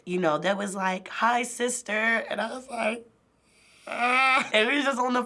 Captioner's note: pretends to cry